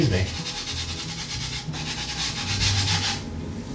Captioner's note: scratchy noise of flour rubbing